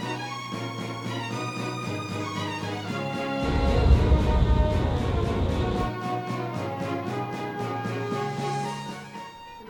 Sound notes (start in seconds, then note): 3.1 craft rumbling; 6.1 intense music